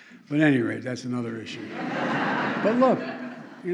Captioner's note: laughter